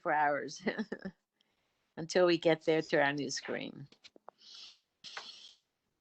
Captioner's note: laughter